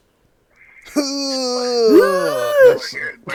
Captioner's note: grunting